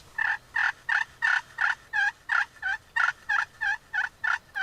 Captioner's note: turkey gobbling